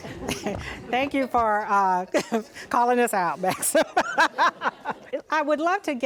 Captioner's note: laughs